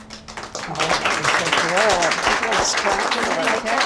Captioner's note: crowd applauding